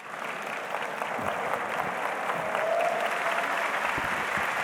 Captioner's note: audience applauds